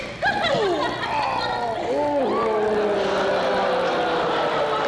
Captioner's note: groaning